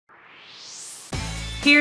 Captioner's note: swoosh